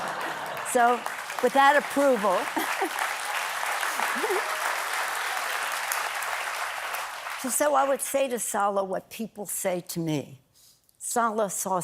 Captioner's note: applause